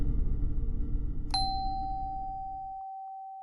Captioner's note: doorbell ringing